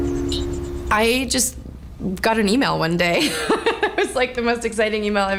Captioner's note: laughing